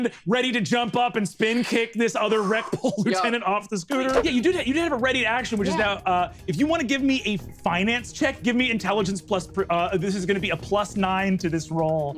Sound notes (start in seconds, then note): 3.9 swooshing sound